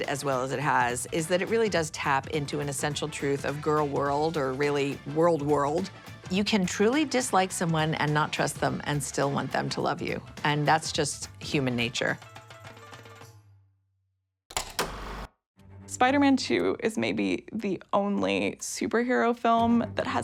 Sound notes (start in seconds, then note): 14.7 film reel clicks